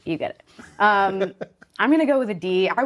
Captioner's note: laughing